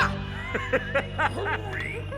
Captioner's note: laughing